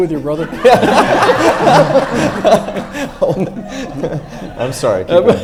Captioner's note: everyone laughs